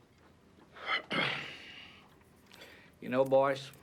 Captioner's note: Michael coughs